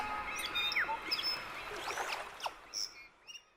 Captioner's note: birds chirping